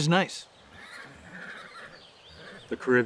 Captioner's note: horse neighing